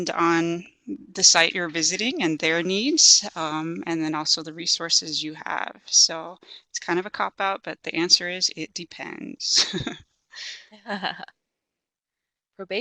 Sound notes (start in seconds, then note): 10.4 chuckles